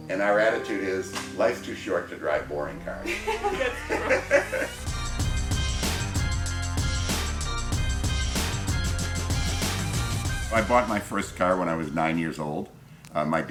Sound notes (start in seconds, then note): 2.8 laughs; 4.9 upbeat music